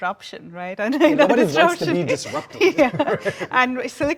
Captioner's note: laughs